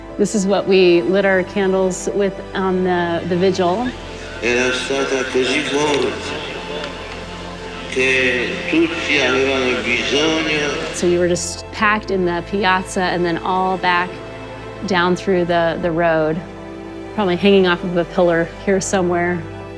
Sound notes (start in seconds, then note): 4.3 John Paul II speaking in foreign language